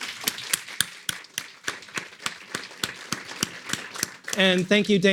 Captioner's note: audience applauding